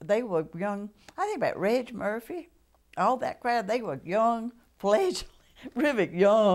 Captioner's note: laughter